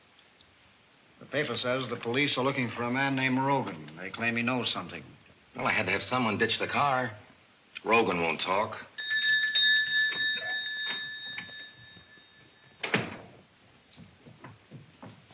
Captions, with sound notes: - The paper says the police are looking for a man named Rogan. They claim he knows something. - Well, I had to have someone ditch the car. Rogan won't talk (bell rings)